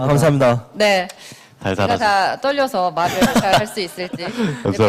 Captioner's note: laughs